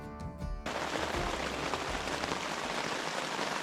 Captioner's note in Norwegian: Kraftig regn